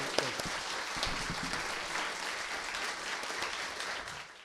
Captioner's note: applause